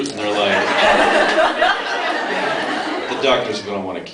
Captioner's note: laughs